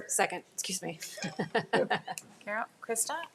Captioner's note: laughing